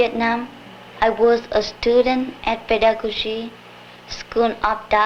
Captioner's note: speaks Vietnamese